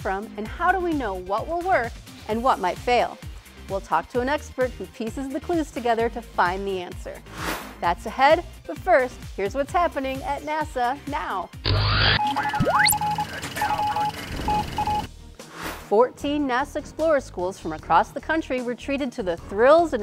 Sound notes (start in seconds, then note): 11.6 sound Effects